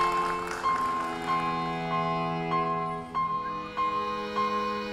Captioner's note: audience applauding